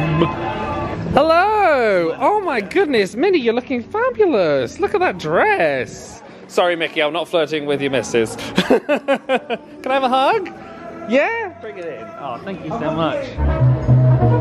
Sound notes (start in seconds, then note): 8.3 laughs; 14.2 cheerful jazzy music